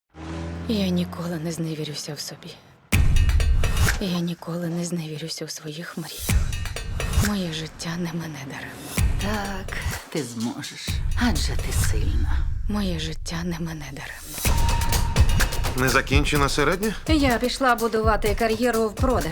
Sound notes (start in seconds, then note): 0.0 engine revs; 5.9 percussion continues